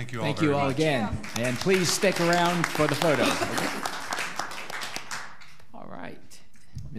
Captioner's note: all applauding